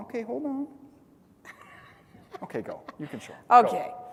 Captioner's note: laugh